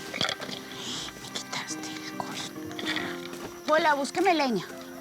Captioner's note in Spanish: murmurando enfadada